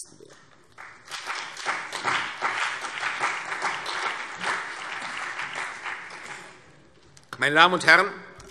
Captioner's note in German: Beifall CDU und BÜNDNIS 90/DIE GRÜNEN